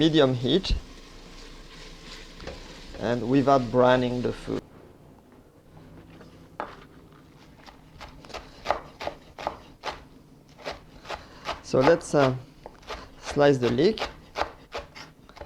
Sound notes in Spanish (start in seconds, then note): 4.3 sonido picando